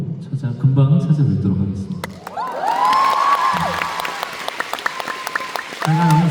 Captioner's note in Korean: 환호